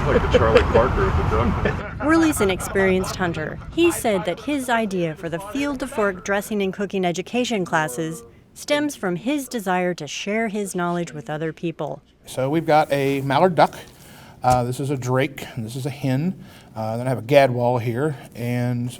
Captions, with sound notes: - You're like the Charlie Parker of the ducks. - [Voiceover] Worley's an experienced hunter. He said that his idea for the Field to Fork dressing and cooking education classes stems from his desire to share his knowledge with other people. - So we've got a mallard duck. This is a drake and this is a hen. Then I have a gadwall here.